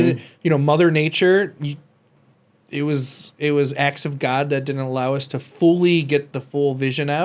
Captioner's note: none